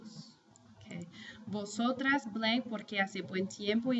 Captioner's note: speaking spanish